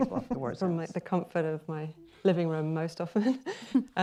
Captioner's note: chuckles